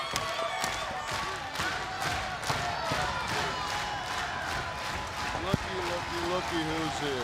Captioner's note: crowd cheering